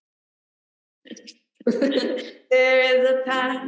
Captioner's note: laughter